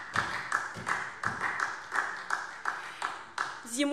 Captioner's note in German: Beifall SPD